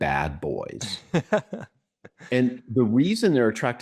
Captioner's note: laughs